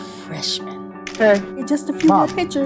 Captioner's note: camera shuttering